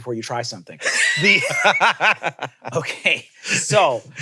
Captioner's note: laugh